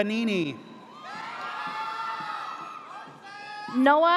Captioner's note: audience cheers